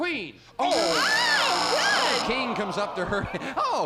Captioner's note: buzzer